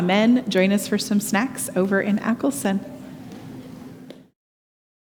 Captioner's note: static buzzing